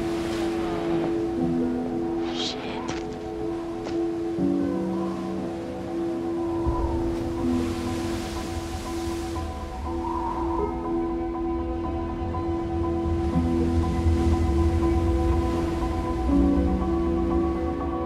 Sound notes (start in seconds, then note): 4.8 wind whistles; 5.0 waves crashing